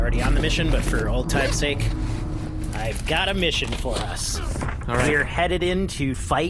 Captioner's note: papers rustling